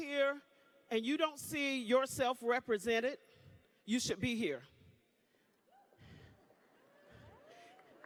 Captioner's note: applause